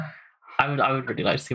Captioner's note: laughing